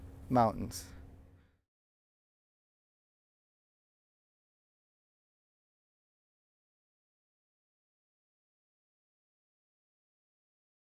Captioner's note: silence